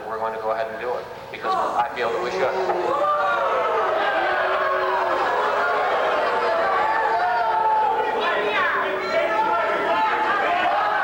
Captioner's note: audience boos and complains